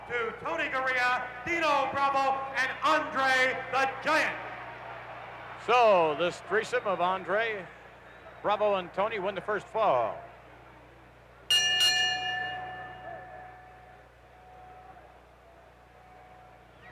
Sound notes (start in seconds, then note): 11.5 bell ringing